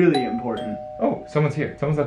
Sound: doorbell rings

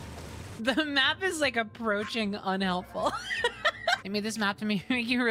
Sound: laughter

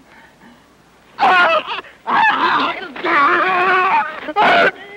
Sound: Frenando screaming

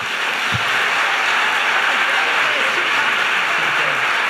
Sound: loud applause

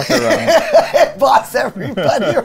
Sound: both laughing

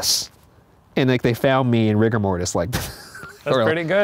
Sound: chuckles

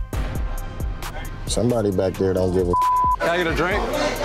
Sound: beep

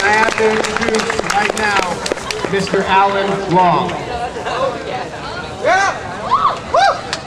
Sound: audience clapping; audience clapping

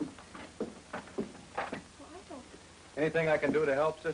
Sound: whispers

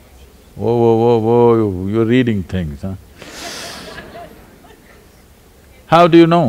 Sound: laughter

